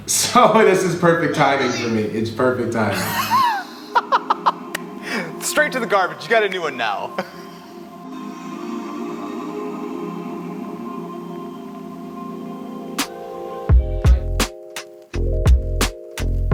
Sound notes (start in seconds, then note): 2.8 laughs; 7.1 mellow music